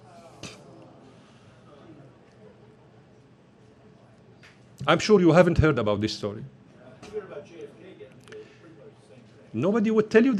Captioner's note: collective groan